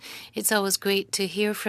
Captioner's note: speaking French